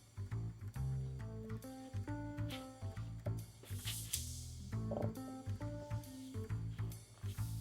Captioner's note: none